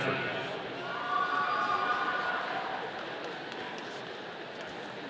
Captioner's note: audience cheering